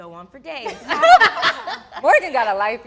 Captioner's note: all laughs